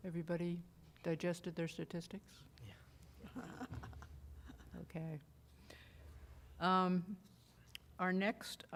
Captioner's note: laughter